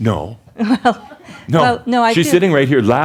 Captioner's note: chuckles